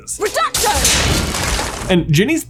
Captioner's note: wall bursts